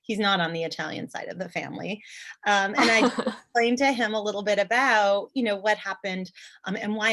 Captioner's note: laughter